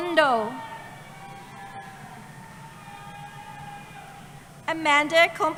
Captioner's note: cheering